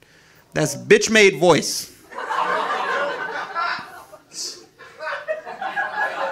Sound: audience laughing

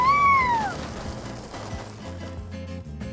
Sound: water spraying; peppy music

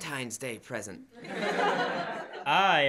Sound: laughter

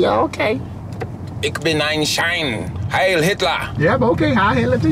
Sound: speaking German

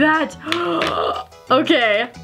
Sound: gasp

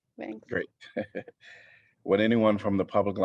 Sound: laughter

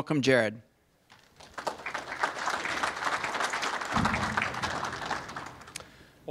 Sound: applause

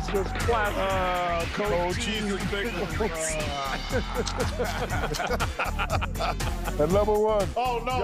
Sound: laughter

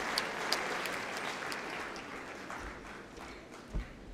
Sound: applause

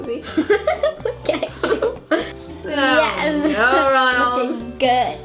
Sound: laughs

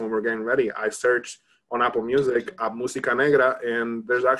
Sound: speaks in Spanish

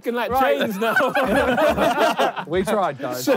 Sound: all laughing

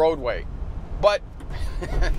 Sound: giggles

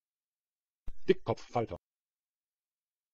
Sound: fast Pronunciation

